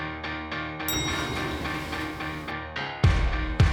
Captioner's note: elevator Door Ding